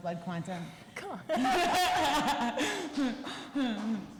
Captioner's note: laughter